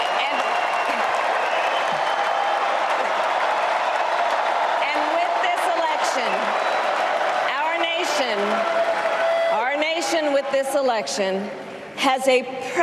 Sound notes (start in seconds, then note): 2.1 applause